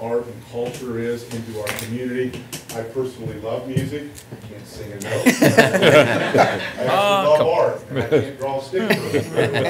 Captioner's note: laughter; laughter